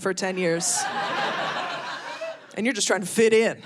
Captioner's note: audience laughing